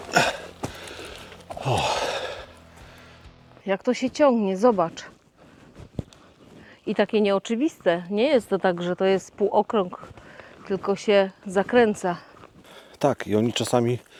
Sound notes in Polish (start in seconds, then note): 1.5 westchnienie